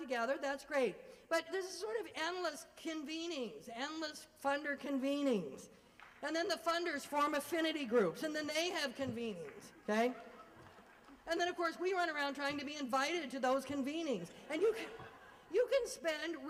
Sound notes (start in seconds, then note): 10.1 laugher